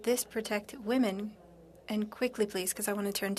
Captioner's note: speaking French